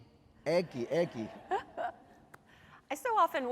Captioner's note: laughter